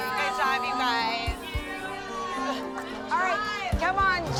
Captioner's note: overlapping chatter